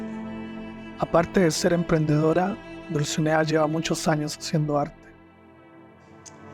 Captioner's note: narrator speaking in foreign language